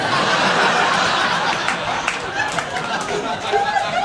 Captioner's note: audience laughing